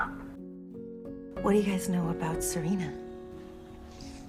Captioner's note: voiceover